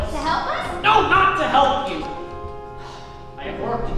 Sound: sighs

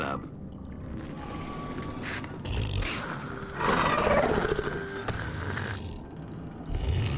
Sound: deep growling; mechanical snoring

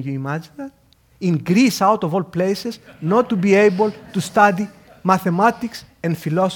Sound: laugh

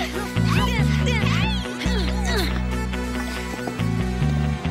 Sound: grunting

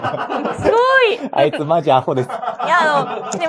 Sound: laughs

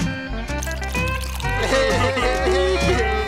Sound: crying

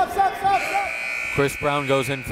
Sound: buzzer

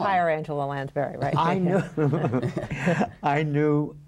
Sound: laughter

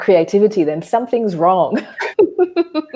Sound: laughs

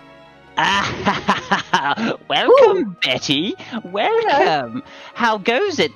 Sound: dramatic music; laughing

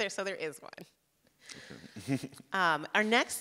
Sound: both chuckle

